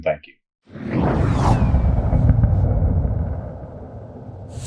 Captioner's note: logo whooshing